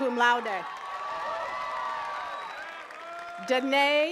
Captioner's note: attendees cheering and clapping